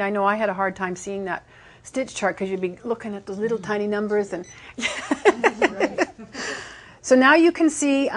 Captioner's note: laughing